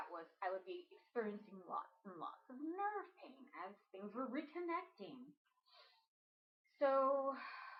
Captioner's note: sigh